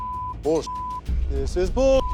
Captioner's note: beep